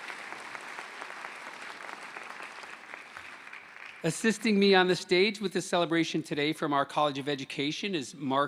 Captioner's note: applause